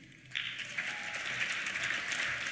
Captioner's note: applause